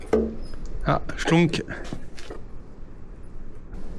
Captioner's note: shklonk!